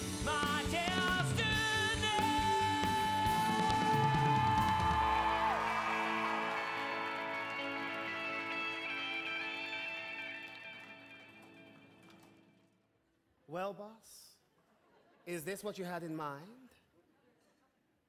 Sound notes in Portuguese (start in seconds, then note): 5.5 audience cheering and applauding